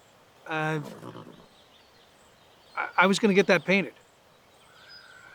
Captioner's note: stammering